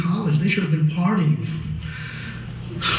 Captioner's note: laughs